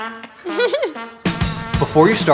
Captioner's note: laughs